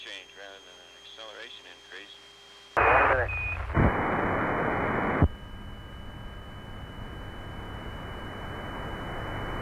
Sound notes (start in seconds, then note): 2.7 radio static